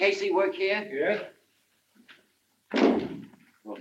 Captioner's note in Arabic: يُغلق الباب بقوة